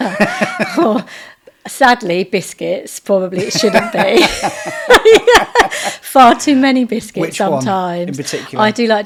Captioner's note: laughing